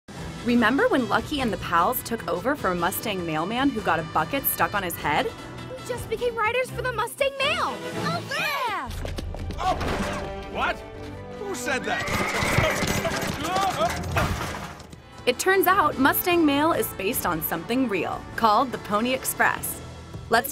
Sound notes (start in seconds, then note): 11.7 horse neighing; 14.2 loud crashing